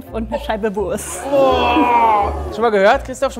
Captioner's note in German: Angeekelte Rufe